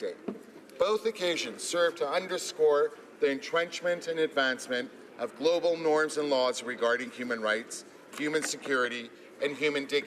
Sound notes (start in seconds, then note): none